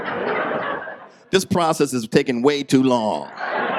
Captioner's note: audience laughs